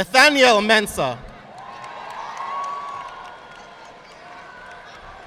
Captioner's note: audience applauding